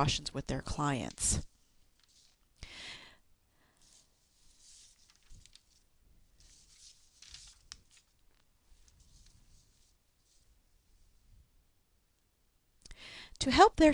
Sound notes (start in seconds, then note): 5.9 pause